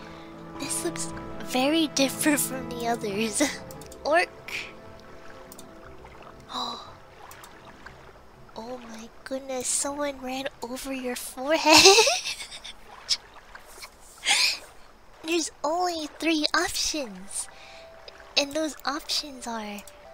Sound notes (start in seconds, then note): 6.5 gasp; 11.7 laughs